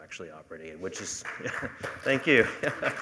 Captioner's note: applause